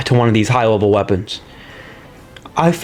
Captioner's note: inhales Oxygen